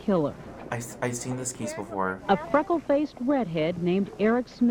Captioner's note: voice-over